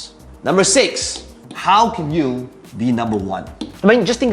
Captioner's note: tapping marker